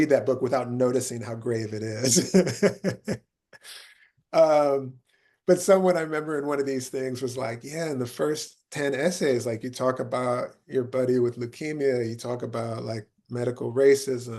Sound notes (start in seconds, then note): 10.7 laughing